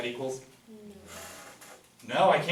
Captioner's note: voiceover